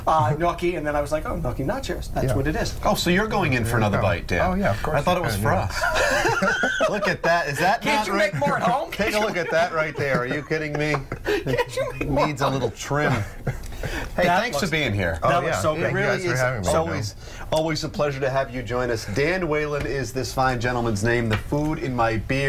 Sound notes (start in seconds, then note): 10.5 laughter